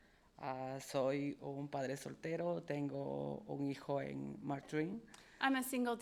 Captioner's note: speaking in foreign language